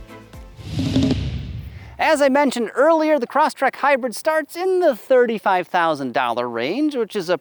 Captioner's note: car revving